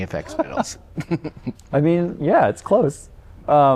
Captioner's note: laughter